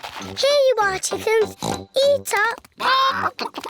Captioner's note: oinks